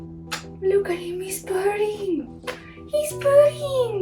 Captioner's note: kissing; kissing